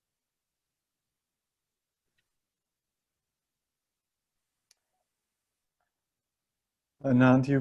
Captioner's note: connection error, no sound